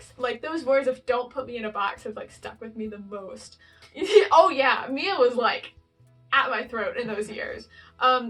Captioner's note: laugh